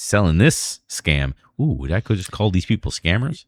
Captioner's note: uh